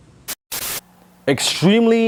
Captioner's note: static noise